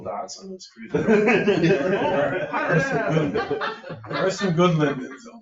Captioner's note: people laughing